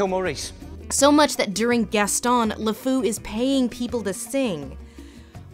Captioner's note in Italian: voce fuori campo